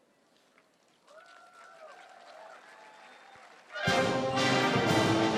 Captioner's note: audience applauding and cheering